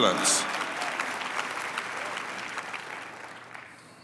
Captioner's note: applause